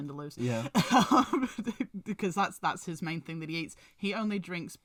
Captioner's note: laughs